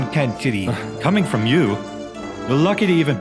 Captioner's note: sighs